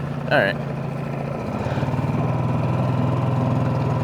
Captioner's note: motor burbling